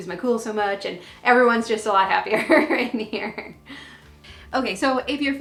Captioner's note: laughs